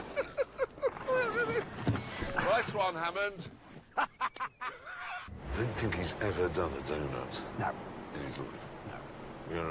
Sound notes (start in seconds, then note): 3.9 richard laughs